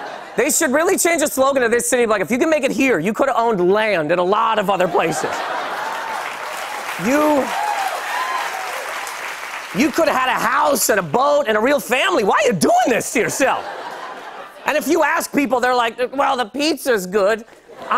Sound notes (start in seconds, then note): 5.2 laughter, cheers, applause